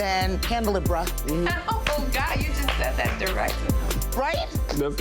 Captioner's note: claps hands